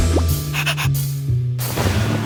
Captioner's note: girlish panting